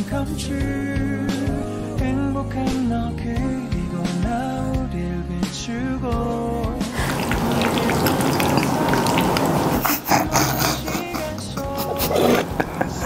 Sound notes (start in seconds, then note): 6.9 pasta squishing; 9.8 both laughing